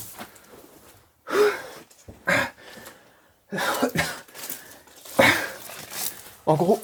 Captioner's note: struggles to catch his breath